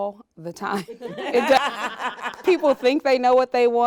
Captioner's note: women laughing